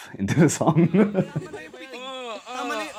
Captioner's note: giggles